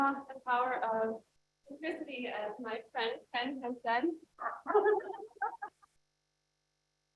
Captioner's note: laughs